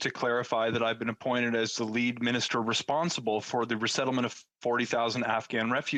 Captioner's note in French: voix de l'interprète